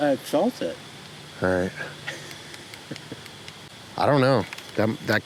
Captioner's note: chuckling